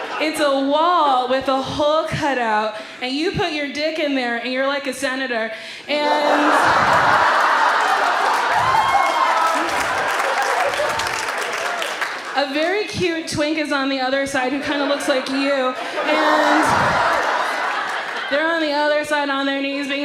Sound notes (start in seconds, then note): 6.0 audience laughs; 8.8 audience applauds and cheers; 16.9 audience laughs